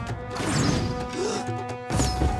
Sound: gasping

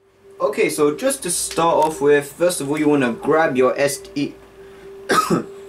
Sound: dry throat

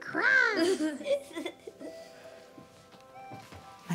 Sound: laughs

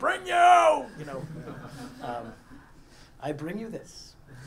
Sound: laugh

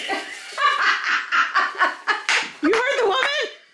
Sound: laughter

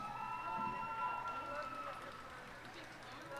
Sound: cheers and applause

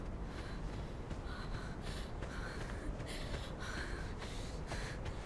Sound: Googly panting

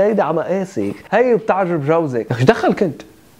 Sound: imitating male Lebanese salesman

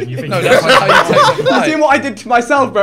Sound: everyone laughing

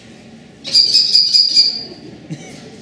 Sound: kestrel Call

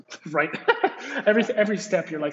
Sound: laughs

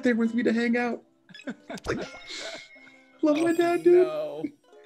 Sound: laugh

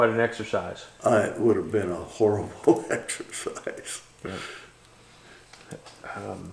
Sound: laughs

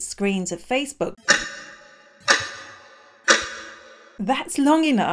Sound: clock ticking

